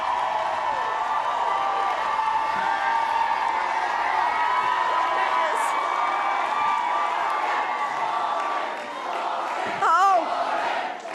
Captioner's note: cheering; crowd chanting "warren"